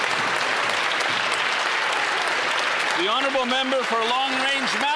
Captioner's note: some Applause